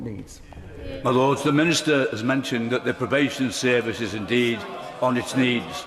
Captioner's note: chatter